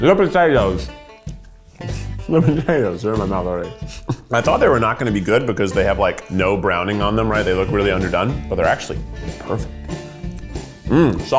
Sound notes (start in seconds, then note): 3.7 laughs; 9.8 energetic music